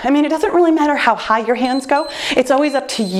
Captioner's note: timer beeps